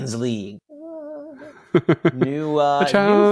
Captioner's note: laugh